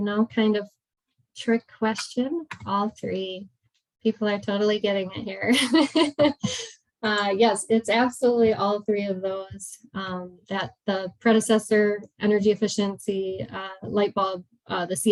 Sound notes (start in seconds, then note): 5.4 laughs